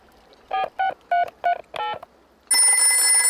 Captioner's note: dialing; rings